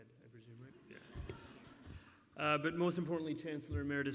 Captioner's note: laughter